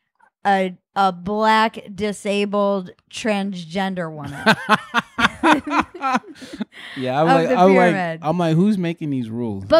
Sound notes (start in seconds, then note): 4.2 laughing